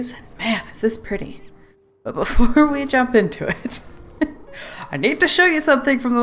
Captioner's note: laughs